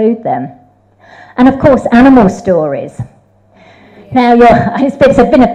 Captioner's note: audience agrees